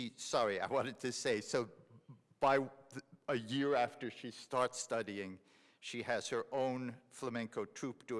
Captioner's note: none